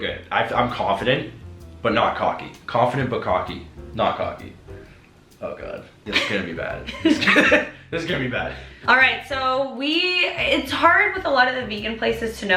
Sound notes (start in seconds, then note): 6.8 laughing